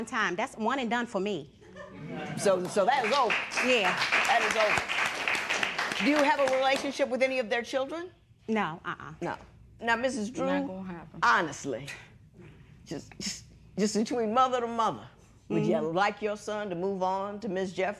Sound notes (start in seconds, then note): 7.8 applause